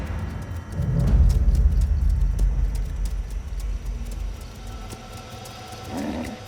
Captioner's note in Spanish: Ruido de los cascos